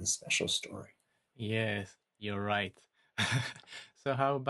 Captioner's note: laughs